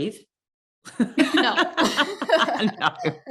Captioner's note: laughing